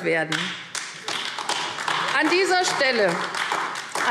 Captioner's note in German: Beifall AfD